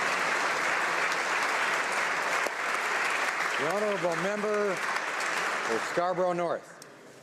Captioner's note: applause